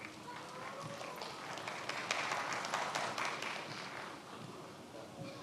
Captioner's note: many applauding